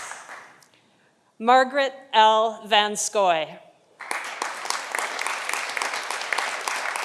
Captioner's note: audience applauding